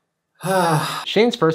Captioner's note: Shane sighs